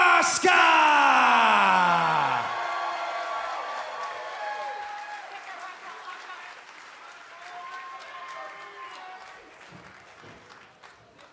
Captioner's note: cheers and applause